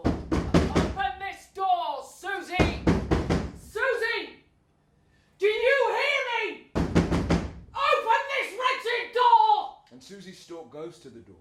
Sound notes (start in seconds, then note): 6.7 knocking